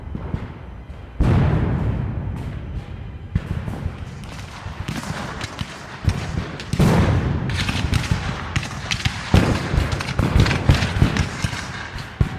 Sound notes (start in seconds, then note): 0.3 guns fire; 6.3 cannons fire